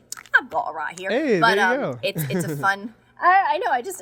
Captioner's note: laughing